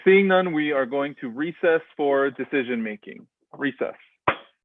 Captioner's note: knock, knock